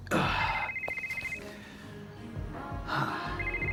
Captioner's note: cell phone ringing